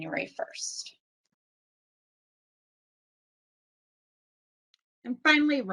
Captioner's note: silence